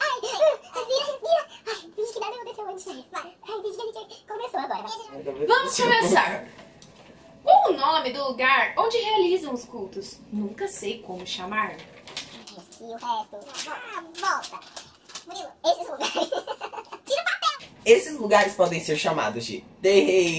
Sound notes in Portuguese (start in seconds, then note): 11.6 voz modificada para tom engraçado; 16.0 risos